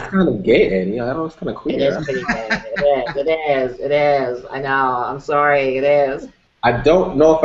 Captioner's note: laughter